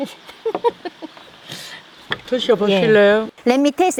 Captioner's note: laughs